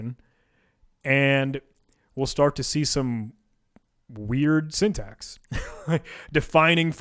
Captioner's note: laughs